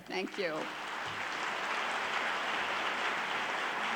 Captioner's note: clapping